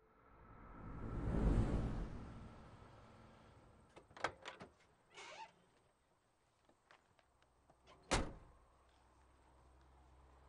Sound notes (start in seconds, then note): 5.1 door opens squeakily